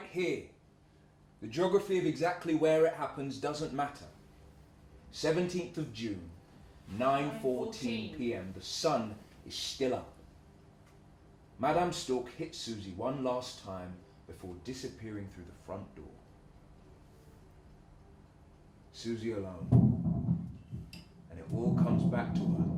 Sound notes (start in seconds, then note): 19.7 thudding scraping noise